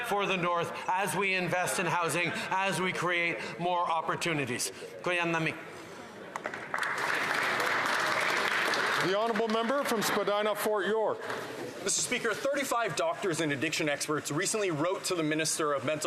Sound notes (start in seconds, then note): 9.3 speaking indigenous language; 11.6 some Applause